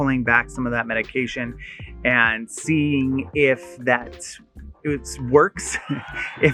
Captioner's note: laughing